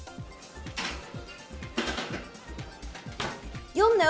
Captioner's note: oven rack clanking